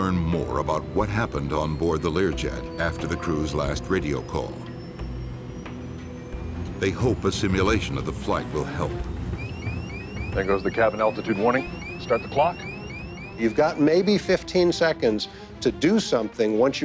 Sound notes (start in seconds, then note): 0.0 voiceover; 4.4 suspenseful music building; 9.5 altitude warning bleats